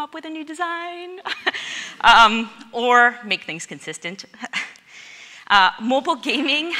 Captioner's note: laughs